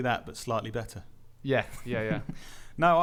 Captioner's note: chuckles